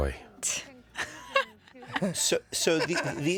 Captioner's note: katic laughs